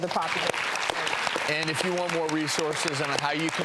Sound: audience applause

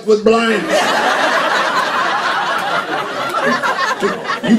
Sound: laughter

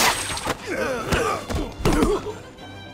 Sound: grunting

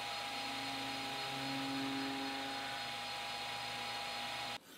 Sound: machine whirling

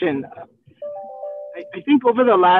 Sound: digital notification chiming

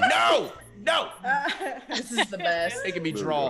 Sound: laugh

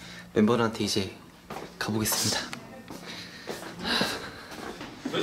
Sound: trudging

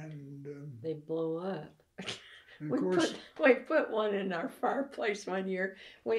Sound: laughs

